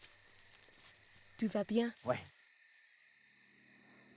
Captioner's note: speaking French